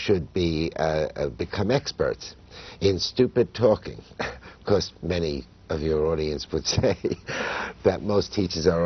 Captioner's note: laughter